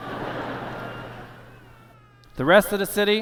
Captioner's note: laughter